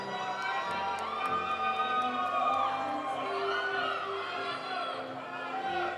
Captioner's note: audience applauding; audience cheering